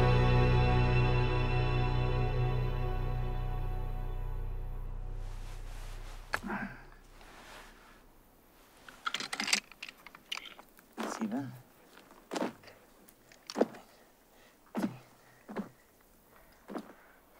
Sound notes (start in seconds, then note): 8.9 revolver rattling; 11.1 counting in foreign language